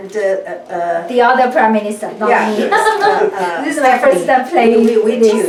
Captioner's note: laughs